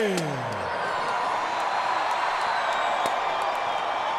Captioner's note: crowd cheers